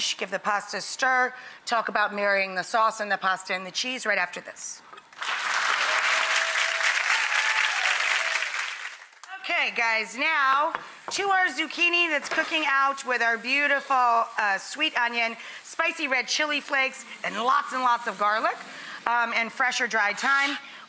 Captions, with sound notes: Give the pasta a stir, talk about marrying the sauce, and the pasta, and the cheese, right after this. (audience clapping) Okay guys, now to our zucchini that's cooking out with our beautiful sweet onion, spicy red chili flakes, and lots and lots of garlic, and fresh or dried thyme,